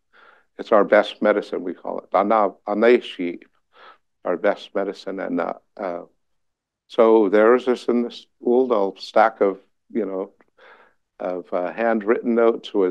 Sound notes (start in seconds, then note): 2.5 non-english